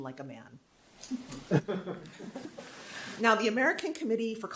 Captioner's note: audience laughing